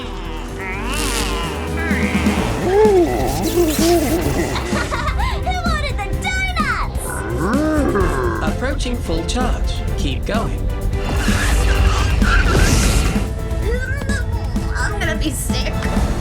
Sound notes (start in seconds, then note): 4.9 laughs; 13.8 groaning